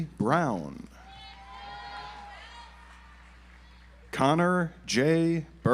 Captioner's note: audience applauds